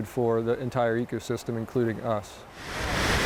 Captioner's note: water rushing